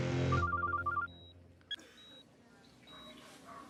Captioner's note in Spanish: suena el celular